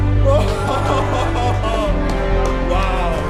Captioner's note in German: jubelt